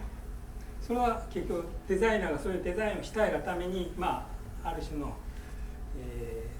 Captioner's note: speaking in foreign language